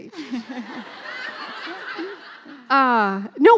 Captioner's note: laughing